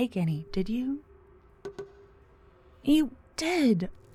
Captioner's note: negative sounding chime in the distance